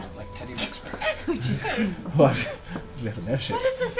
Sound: laughs

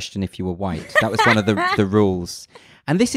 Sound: laughs loudly

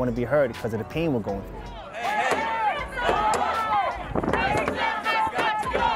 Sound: protesters chanting

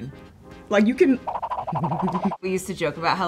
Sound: laughs

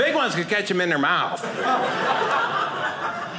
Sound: audience laughing

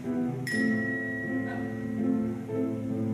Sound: text notification chime

